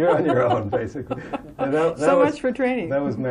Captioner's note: laughter